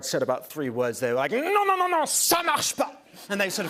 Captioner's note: speaks French